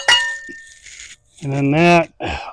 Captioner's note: hammer banging